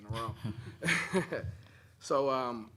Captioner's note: audience laughing